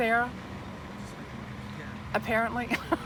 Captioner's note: wind blowing; laughs